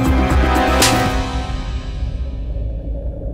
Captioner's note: Slaping